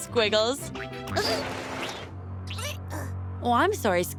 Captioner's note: caterpillar noises